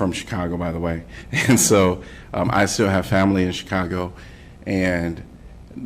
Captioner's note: laughter